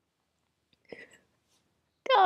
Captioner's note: silent laughter